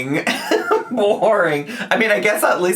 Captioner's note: laughs